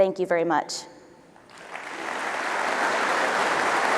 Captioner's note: applause